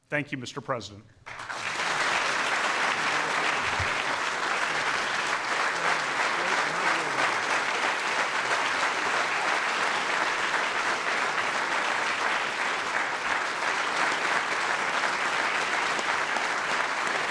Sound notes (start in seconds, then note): 7.9 applause